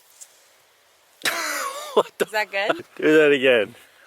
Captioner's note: laughs